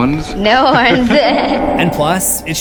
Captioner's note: laughs